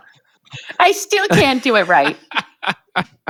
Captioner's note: chuckles; laughing